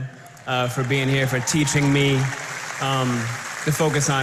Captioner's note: applause